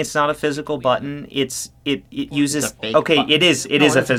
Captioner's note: stammers in fear of haptics